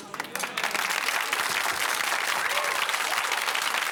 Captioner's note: audience oohing; applause